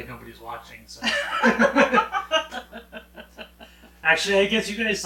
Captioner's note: both laughing